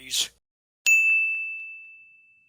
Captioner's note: ding!